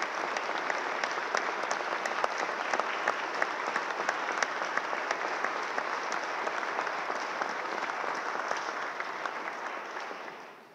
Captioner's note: applause